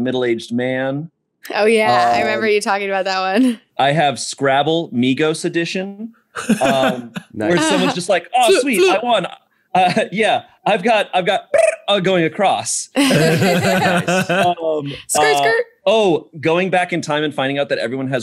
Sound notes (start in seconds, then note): 6.4 laughter; 13.0 laughing